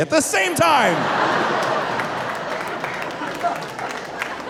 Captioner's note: audience laughing